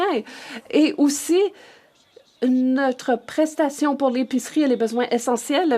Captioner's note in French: voix de l'interprète